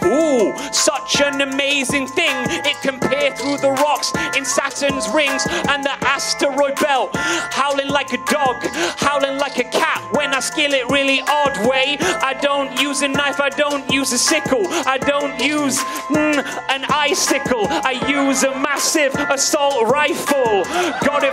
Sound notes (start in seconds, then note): 4.6 audience member howls